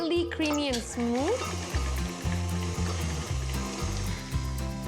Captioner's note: mixer whirs